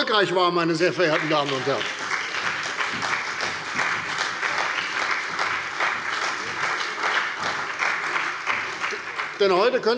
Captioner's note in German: Beifall bei der CDU und dem BÜNDNIS 90/DIE GRÜNEN